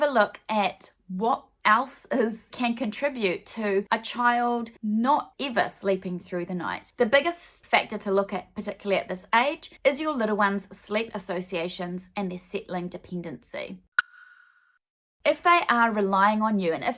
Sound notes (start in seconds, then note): 13.7 clicking